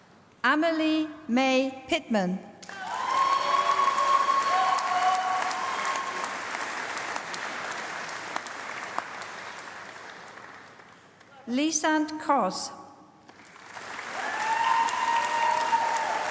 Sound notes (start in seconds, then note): 0.0 applause; 13.2 applause